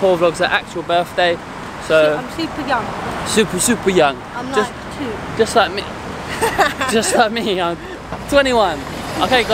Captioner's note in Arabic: تضحك